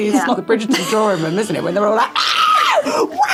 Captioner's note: Jessica laughing